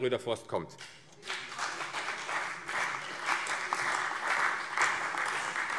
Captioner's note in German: Beifall CDU, Freie Demokraten und vereinzelt BÜNDNIS 90/DIE GRÜNEN